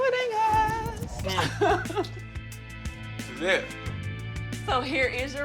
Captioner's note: laughs